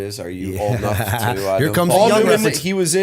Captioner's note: laughter